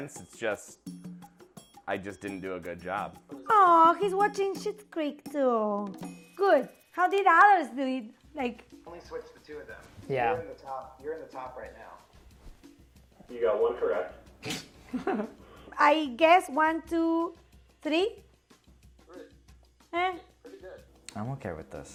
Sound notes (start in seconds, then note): 14.4 laughing